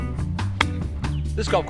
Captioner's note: thwack